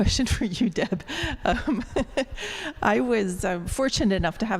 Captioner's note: laughter